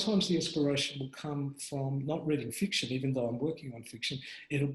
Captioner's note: none